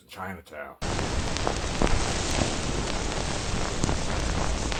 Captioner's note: rain pounding